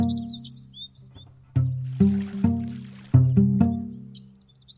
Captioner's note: gentle upbeat music; birds chirping; water splashes